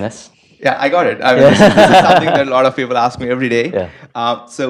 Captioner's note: laugh